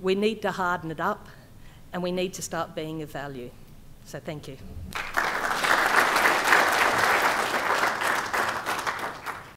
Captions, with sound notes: We need to harden it up, and we need to start being of value. So thank you. [APPLAUSE]